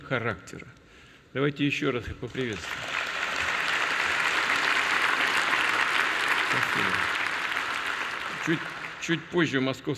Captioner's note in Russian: Аплодисменты